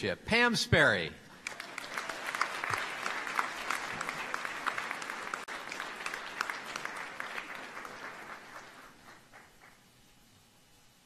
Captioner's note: applause